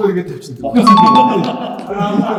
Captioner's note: laughs